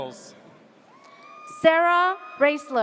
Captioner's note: audience cheers